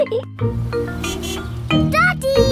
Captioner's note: horn honks